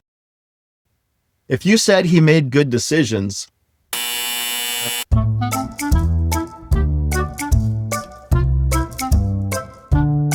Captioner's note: buzz